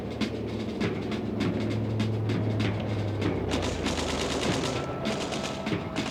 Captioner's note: guns firing; plane engine revving